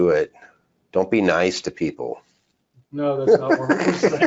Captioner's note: laughs